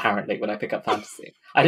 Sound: laughing; laughs

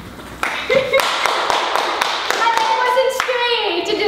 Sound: claps

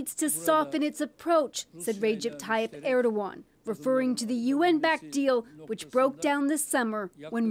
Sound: speaking alternate language

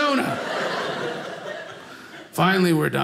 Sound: audience laughing

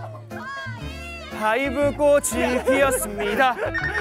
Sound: laughing

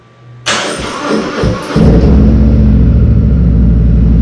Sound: bike starts up

